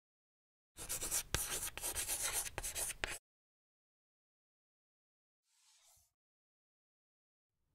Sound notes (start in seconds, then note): 0.8 chalk writing